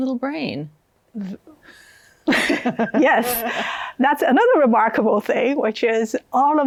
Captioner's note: laughs